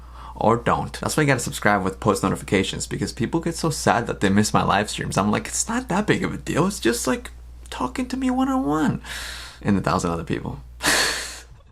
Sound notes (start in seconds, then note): 11.1 laughs